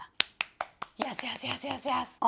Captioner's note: claps